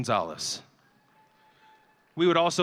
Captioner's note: audience cheering